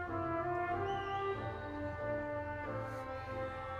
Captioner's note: audience whistles; audience cheering